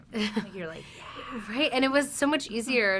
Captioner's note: chuckles